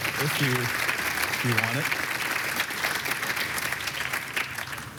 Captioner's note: applause